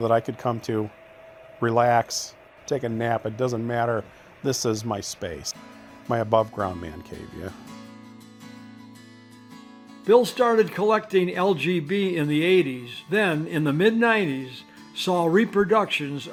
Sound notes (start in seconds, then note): 10.0 voiceover